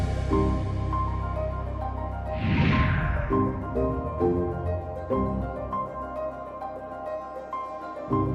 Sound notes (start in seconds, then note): 2.2 air whooshing; 3.0 upbeat music continues